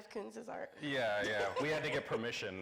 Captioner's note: laughing